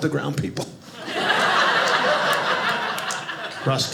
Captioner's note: audience laughing